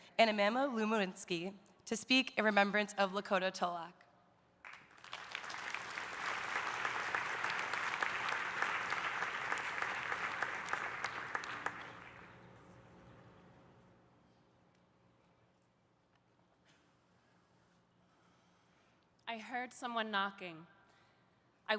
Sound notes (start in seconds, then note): 4.6 audience applauding